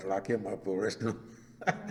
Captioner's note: laughs